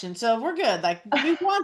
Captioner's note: laughs